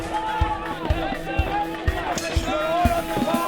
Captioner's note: shouting continues